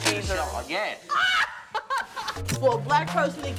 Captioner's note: laughing